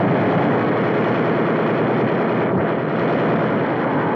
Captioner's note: guns firing